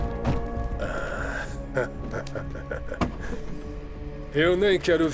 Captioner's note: laughing